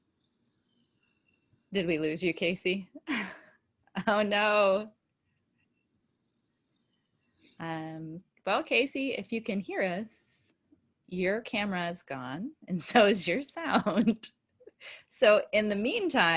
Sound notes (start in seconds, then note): 4.7 audio frozen